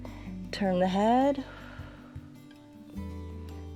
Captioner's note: exhales